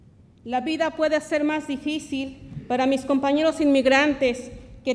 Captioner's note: speaks Spanish